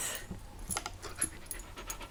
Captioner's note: happy panting